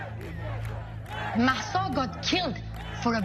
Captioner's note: soundbite of protest